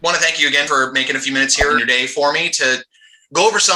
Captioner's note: quick transition sound